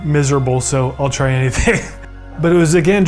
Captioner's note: laughs